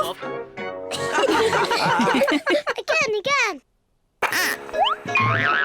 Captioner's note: all giggle